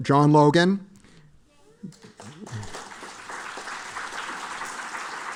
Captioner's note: applause